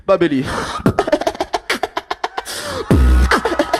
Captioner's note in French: rires beatboxés